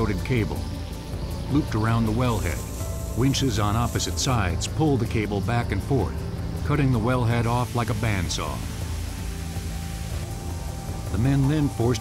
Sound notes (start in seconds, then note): none